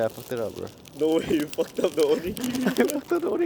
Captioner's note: laughs